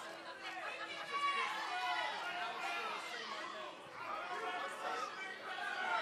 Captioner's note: crowd chatter